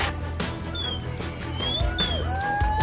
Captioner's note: siren sounding; cheering and clapping